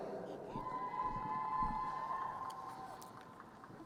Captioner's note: crowd cheering